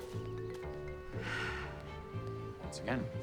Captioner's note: shane sighs wistfully